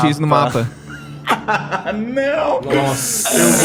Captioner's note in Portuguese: Risada